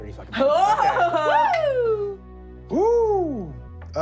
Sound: cheering

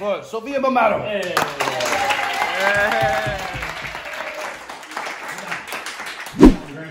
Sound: applause

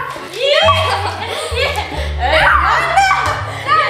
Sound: laughing

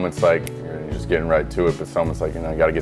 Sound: snaps

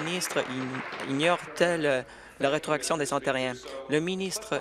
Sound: applause

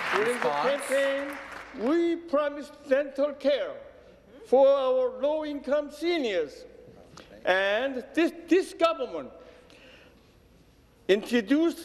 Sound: applause

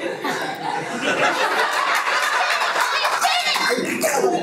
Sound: everyone laughs

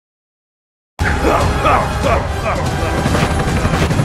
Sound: happy noises

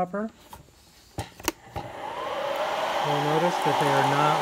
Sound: popper blaring

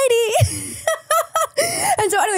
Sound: laughs

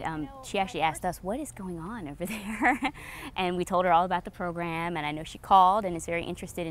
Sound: laughs

